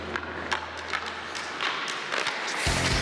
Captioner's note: sticks hit; rock music